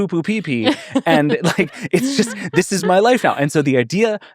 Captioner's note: laughing